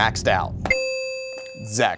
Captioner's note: ding